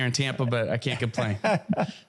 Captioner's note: laugh